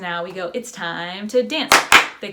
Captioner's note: clapping